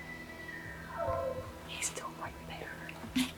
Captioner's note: elk calling back